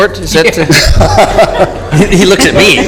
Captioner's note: laughter